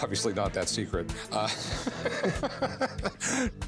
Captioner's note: laughter